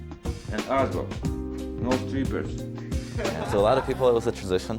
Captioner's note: laughter